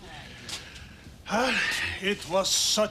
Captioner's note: sighs